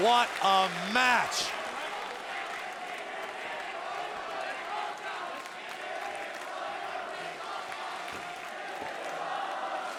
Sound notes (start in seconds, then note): 2.1 audience chanting; 2.1 audience clapping